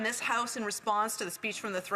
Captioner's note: speaking French